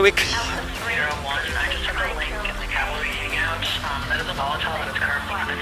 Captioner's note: radio chatter